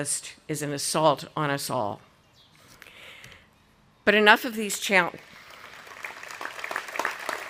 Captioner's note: audience applauding